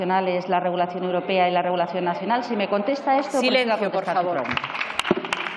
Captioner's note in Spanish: Rumores.-Aplausos